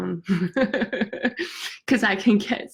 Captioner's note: laughs